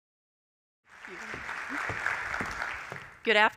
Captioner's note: applause